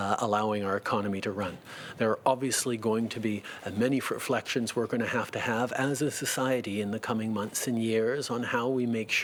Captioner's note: speaking French